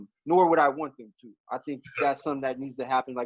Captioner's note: giggles